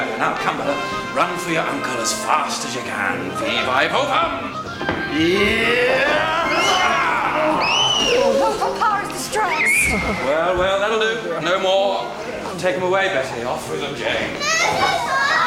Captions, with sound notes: Run for your uncle as fast as you can. Fee, fi, fo, fum! Yes! (Fanny squeals) - Papa is distressed. Well, well. That'll do. No more. - Take them away, Betty. Offwith them, Jane. - No, Papa!